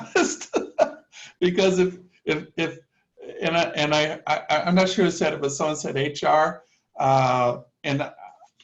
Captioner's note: laughter